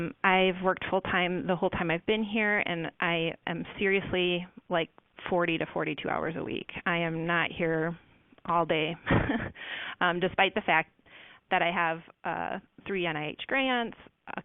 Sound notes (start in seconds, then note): 8.6 laughs